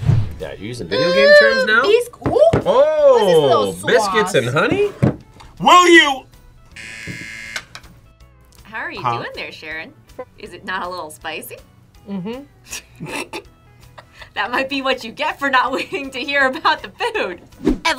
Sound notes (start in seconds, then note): 6.7 buzzer; 12.1 both laugh